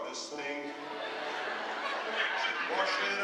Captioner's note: laughter